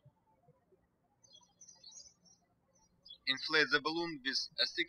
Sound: birds chirping

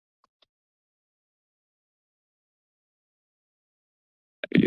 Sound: silence

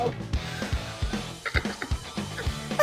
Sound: laughing

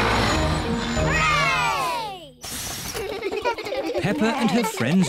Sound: all cheer

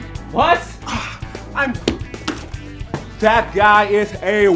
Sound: sighing

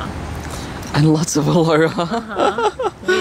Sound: chuckles

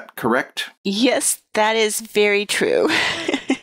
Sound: chuckles

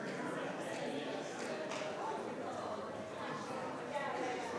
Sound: crowd chattering

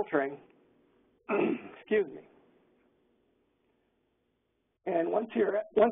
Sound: clears throat

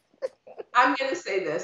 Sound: laughing

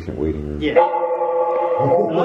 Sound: metallic Sound

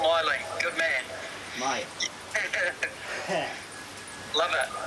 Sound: both chuckle

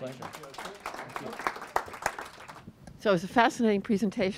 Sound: audience claps

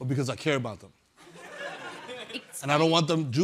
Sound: chuckling

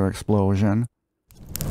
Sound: explosion sounds

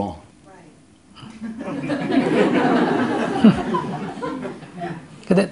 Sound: audience Laughter

